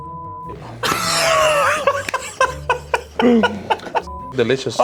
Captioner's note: laughing